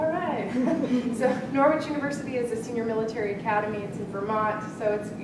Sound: laugh

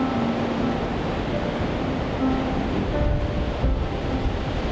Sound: ocean resounding

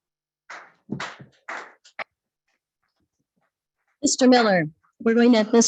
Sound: clapping

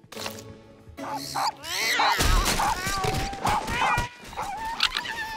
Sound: barking, meowing, chirping; whimpering

